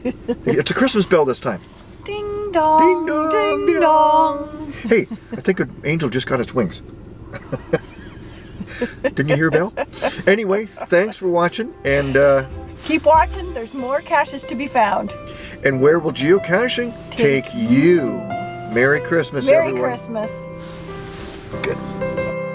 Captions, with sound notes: It's a Christmas bell this time. -Ding Dong. Ding Dong. Hey, I think an angel just got it's wings. [chuckles] Didn't you hear a bell? Thanks for watching. -Keep watching there's more caches to be found. -And where will Geocaching take you? Merry Christmas! -Merry Christmas!